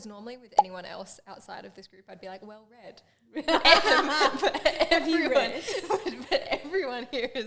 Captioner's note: laughs